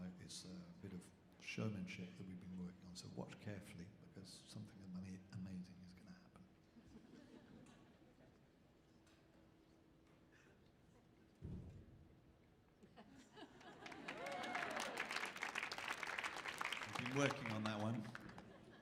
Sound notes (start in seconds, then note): 6.9 audience laughing; 13.0 audience laughing; 13.8 audience cheering; 18.2 audience laughing